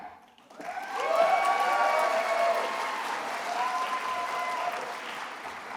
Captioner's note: attendees applauding and cheering